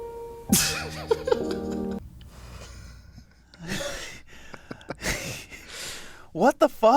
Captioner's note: man laughs; gentle classical music